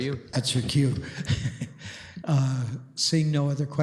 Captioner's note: chuckling